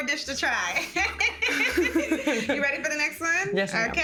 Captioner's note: both laughing